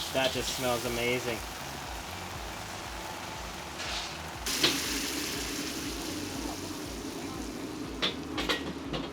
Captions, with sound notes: That just smells amazing. (sizzling liquid)